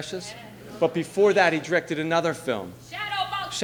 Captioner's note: audiences responds